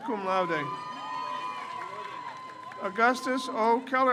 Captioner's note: crowd cheers